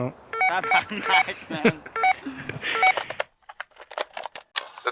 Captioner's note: radios beeping